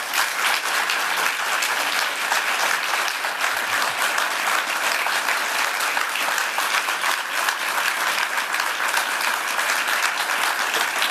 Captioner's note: applause